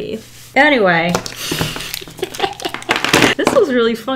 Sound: laughs

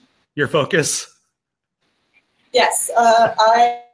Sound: laughing

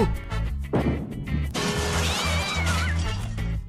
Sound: sounds of destruction off-screen

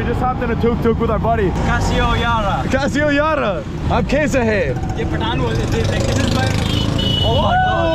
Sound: speaking in Urdu

